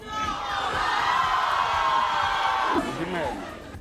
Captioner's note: crowd screams